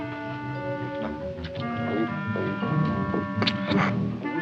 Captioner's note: eating sounds